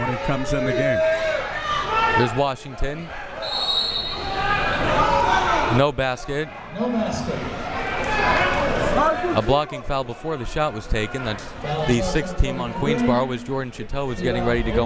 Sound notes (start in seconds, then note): 3.4 whistle tweeting